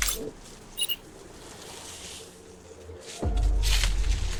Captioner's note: dramatic music; cellphone beeping